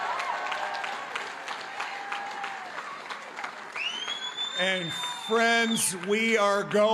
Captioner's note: cheering and applause